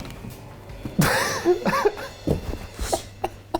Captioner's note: laughs